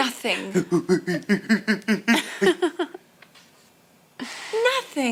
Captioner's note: silly noises; laughter